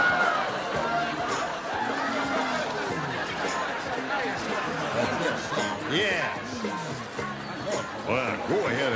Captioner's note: hollering